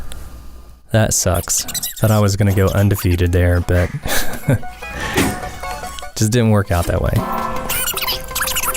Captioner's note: haha